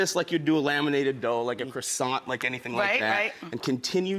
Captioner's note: none